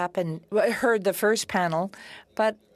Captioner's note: speaking French